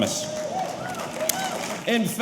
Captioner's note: audience applauding; audience cheering